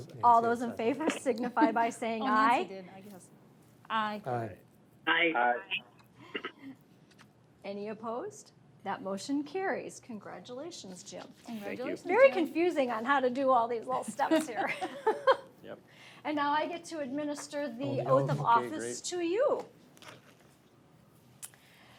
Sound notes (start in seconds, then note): 15.4 laughs